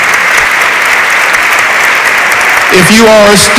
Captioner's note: audience applauds